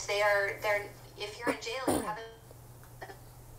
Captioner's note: call breaking up